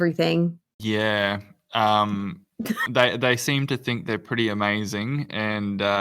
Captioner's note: laughs